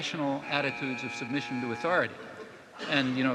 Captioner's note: buzzer buzzing